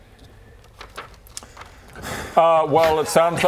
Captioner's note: too much effort sigh